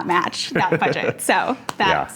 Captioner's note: chuckling